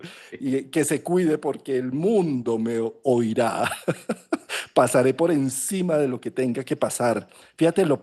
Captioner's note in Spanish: risas